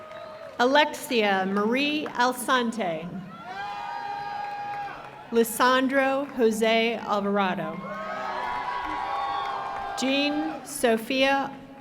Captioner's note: cheering and applause